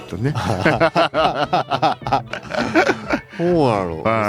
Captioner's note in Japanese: 笑い